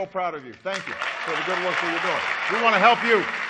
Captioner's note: applause